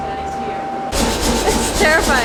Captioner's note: hammer thudding